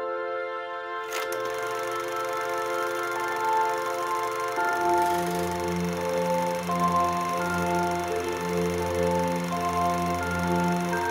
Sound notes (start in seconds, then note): 1.0 sound of running projector